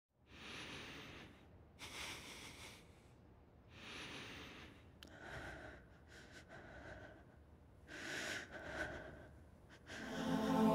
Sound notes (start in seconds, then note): 0.6 heavy breathing